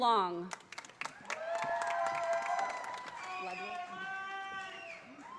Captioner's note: audience applauding